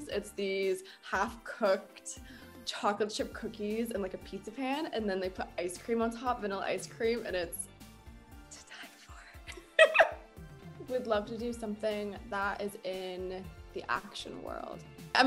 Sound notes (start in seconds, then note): 9.5 laughing